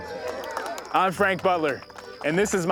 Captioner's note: applause